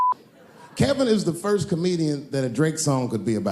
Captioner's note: laughter